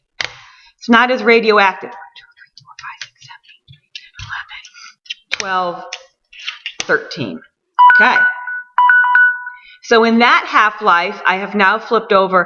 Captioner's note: alarm goes off